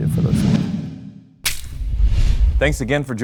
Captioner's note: transition swooshing